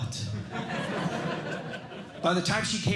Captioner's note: laughter